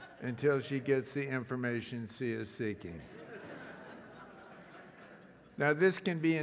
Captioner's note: laugh